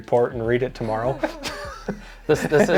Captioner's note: both laughing